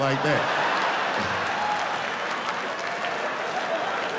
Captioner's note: laughing